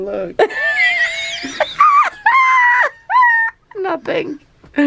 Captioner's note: laughs